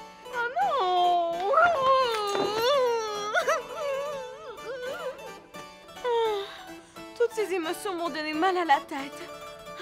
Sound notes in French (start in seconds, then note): 2.1 pleurs